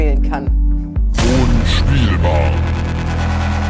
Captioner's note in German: Dröhnen